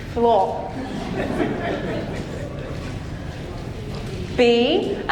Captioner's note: audience laughing